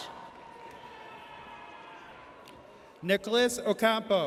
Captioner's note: audience cheers